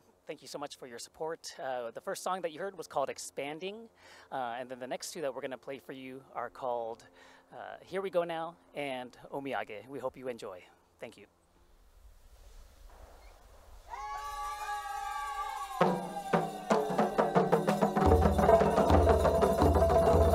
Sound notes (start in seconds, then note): 13.9 shouting